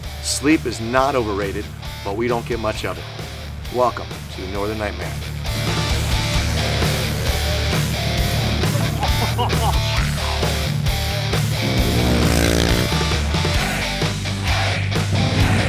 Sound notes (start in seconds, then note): 9.0 laughing